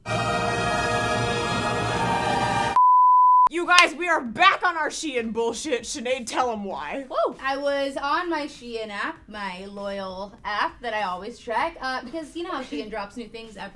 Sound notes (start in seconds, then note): 0.0 dramatic music; 2.7 beep